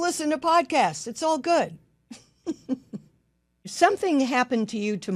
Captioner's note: laughs